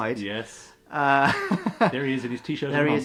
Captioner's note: laughs